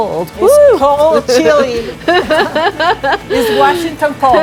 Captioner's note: laughing